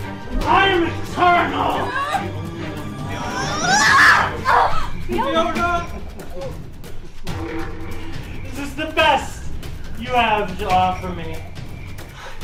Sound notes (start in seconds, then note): 1.6 screaming